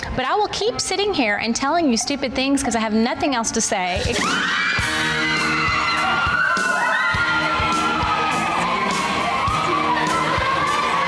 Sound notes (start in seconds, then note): 3.9 upbeat music; 4.1 women cheering